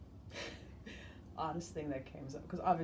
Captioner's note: laughs